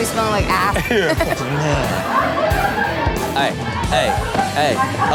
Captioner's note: laughing